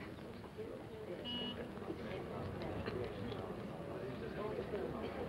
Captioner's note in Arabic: صوت بوق السيارة